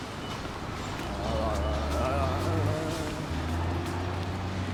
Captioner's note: humming